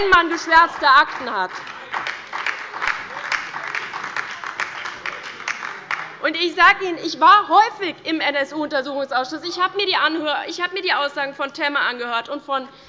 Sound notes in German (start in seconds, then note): 5.8 Beifall bei der LINKEN und der SPD